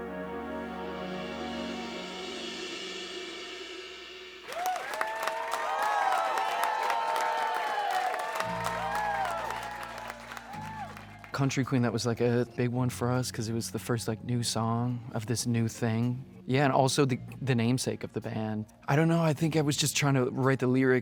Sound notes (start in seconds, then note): 4.4 people cheering